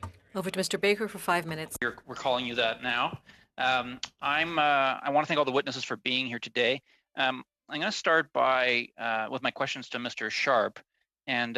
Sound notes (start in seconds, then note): 4.1 speaking French